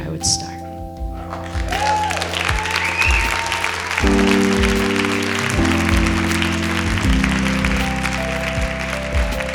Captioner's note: applause